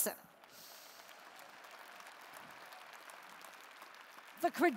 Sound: applause

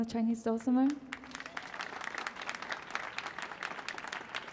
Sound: applause

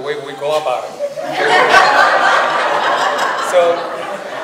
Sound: audience laughs

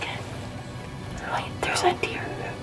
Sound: whispering

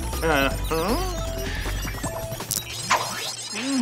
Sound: beeping

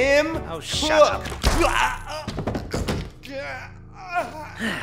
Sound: hidden man groans in pain and collapses to floor; deep sigh

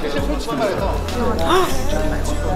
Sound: gasp!

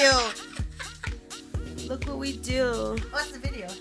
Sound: laughs

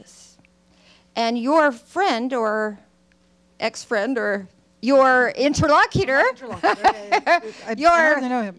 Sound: laughs

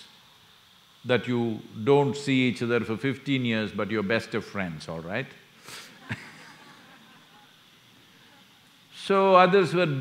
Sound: laughs

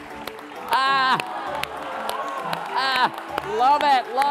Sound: laughing

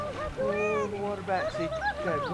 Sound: children yelling

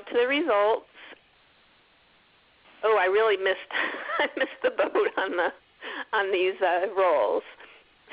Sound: laughs

